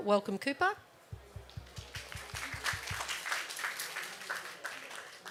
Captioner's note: applause